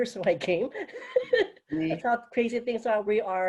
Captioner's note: laughter